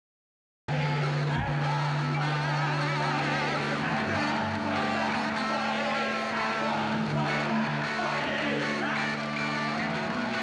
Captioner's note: chanting